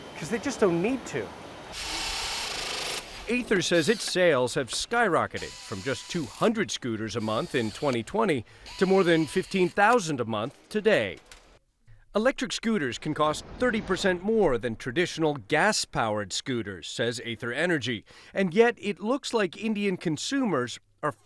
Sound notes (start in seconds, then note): 1.6 power tool whirring